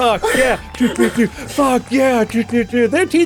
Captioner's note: clap clap clap